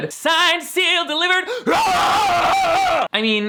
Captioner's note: roars